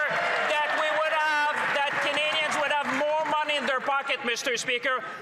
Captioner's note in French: voix de l'interprète